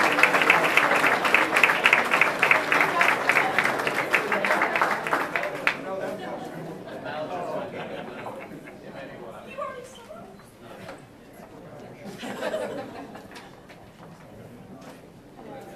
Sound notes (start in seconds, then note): 3.2 people speaking amongst themselves and laughing